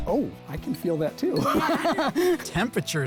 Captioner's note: laughs